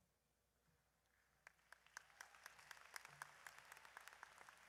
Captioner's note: audience applauds